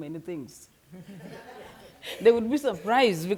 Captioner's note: audience members laughing